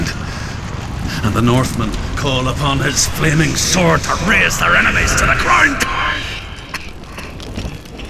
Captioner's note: coughs